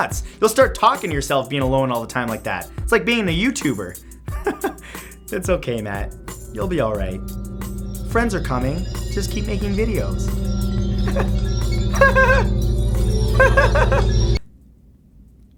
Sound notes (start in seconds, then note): 10.5 creepy music; 10.5 scared laughing